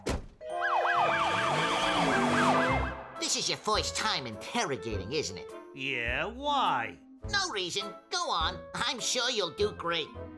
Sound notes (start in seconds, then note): 0.5 siren blares